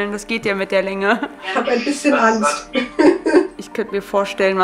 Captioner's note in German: lacht